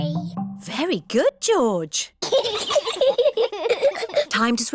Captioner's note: both giggle